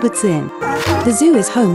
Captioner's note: seal bark